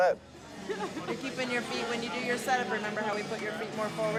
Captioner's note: laughs